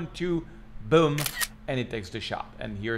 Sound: camera clicking

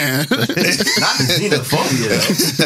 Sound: laughing

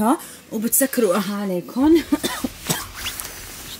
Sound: coughs

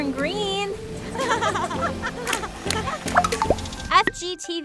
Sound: laughing

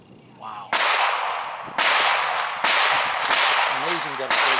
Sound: gunshots on range #2

